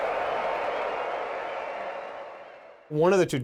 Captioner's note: cheering